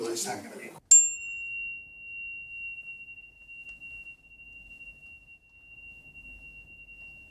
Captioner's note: harmonizer ringing